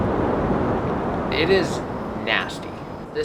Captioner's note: thunder roars